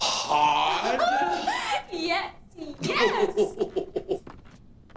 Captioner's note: giggling